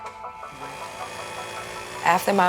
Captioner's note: mixer whirs